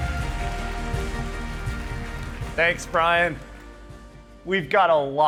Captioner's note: applause